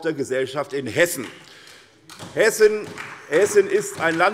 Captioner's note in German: Vereinzelter Beifall SPD